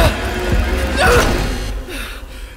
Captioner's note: yelps